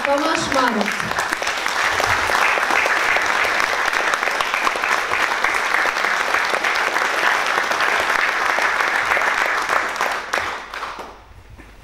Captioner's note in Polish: oklaski